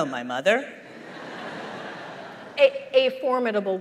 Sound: laughter

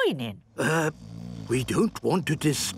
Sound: people snoring

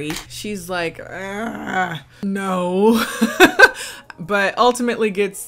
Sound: laughing

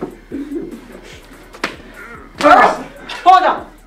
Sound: slapping of belt

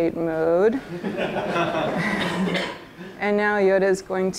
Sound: laughter

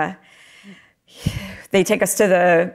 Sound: breathes deeply

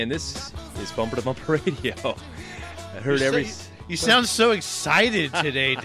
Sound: laughs

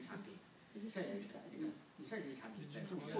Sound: speaking foreign language

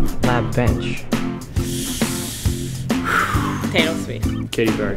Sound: breathing

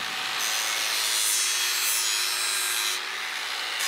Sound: screeching whirring

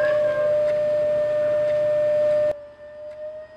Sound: speaker humming ~500 Hz sound

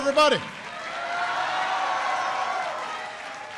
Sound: applause

